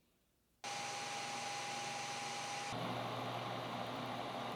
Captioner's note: machine motor hums